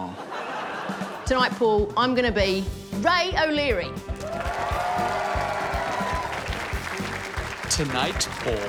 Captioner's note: audience cheers, applauds